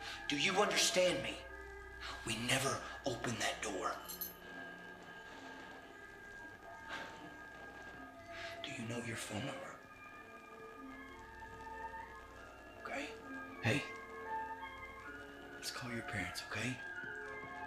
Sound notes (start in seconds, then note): 4.8 soft orchestral music; 4.8 static crackling